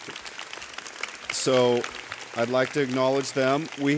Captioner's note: audience clapping